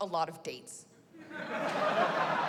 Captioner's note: laughter